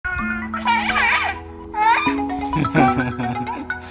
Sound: laugh

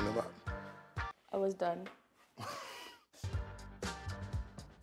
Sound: laughs

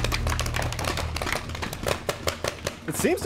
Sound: paint ball guns clacking

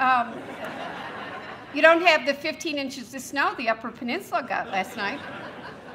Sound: laughter

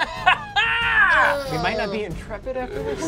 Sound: laughs maniacally; moans

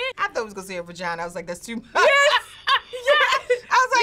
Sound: laughs

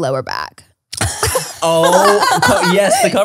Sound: everyone laughs

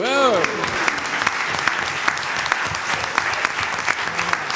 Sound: applause

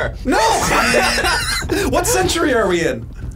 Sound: both laugh

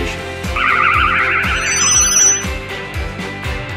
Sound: UFO buzzes; upbeat music continues

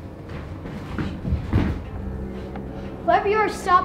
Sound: footsteps

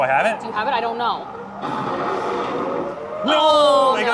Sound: dinosaur roaring

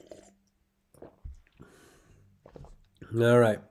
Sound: liquid slurping

